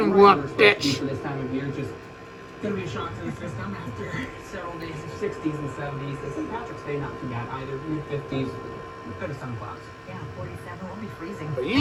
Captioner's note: TV continues playing in background